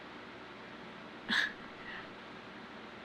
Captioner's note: laughs